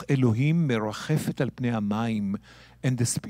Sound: speaking in Hebrew

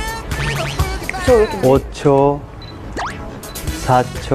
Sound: fumbling

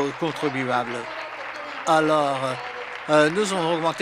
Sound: some Applause

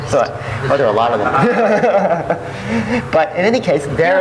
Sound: laughs

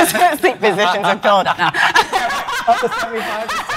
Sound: laughs

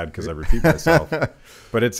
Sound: Dave laughs

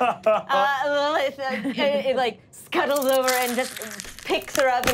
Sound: scuttling

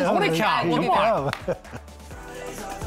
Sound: upbeat music; chuckles

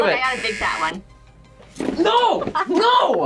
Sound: buzzer rings

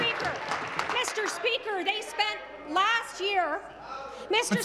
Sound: applause

